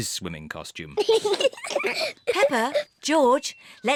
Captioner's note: both laugh